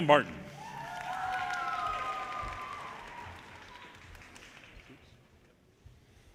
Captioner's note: audience cheers and applause